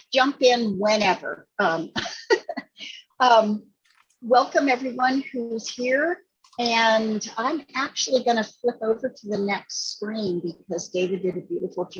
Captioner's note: laughing